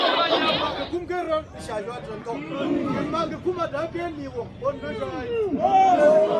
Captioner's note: speaking in foreign language